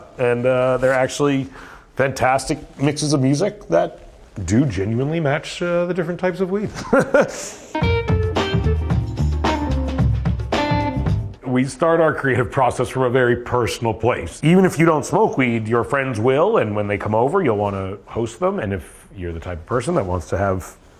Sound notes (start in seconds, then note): 6.7 laughs; 7.7 funky music